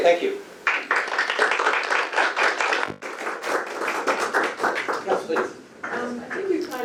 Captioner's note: audience applauses